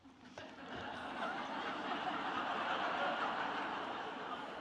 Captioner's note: audience laughing